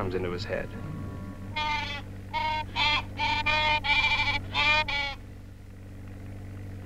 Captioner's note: Pete squawking